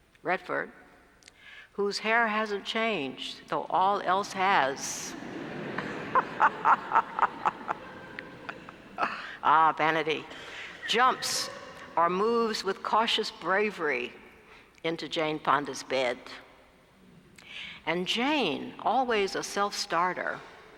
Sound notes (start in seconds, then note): 5.0 laugh